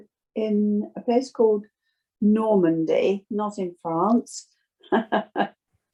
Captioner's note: laughs